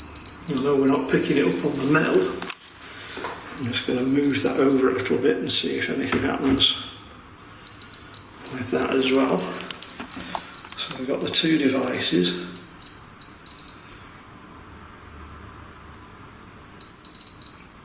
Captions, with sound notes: Though we're not picking it up on the mantle, I'm just gonna move that over a little bit and see if anything happens with that as well. So we've got the two devices. (beeping)